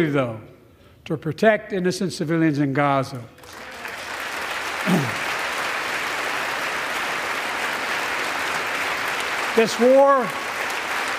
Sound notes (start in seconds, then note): 3.3 applause